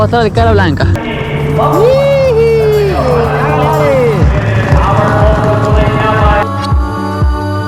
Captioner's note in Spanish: Narración en altavoz de carrera de caballos